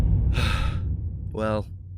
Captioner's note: sigh